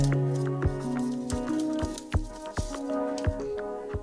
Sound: sound of Vinny fiddling with the "teabag"

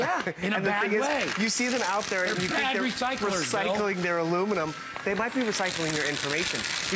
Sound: laughter

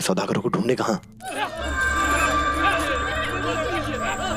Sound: men shouting

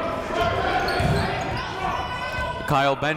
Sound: shouting

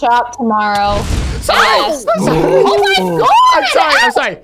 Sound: fire Explosion

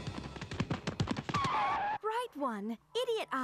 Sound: both skidding

